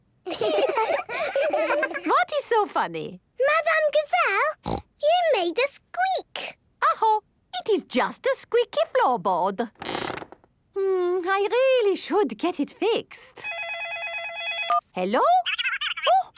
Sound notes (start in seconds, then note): 0.2 laughing; 9.8 squeaks; 13.4 phone ringing